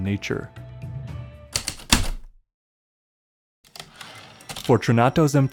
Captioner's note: typewriter keystokes, return slide